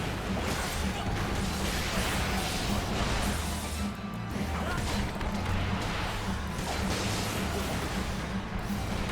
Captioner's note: gunshots